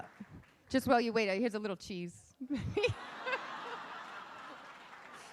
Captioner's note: laughing